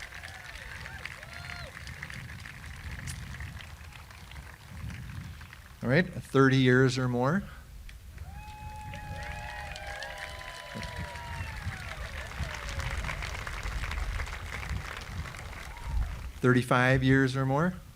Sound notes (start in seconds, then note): 0.0 audience applauding; 10.7 audience applauding